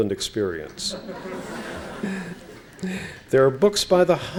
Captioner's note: laughter